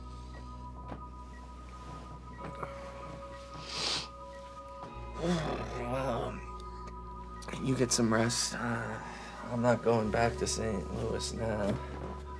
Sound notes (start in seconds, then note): 3.4 Drew snivels; 5.2 Drew groans